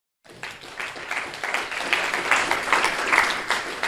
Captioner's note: group applauding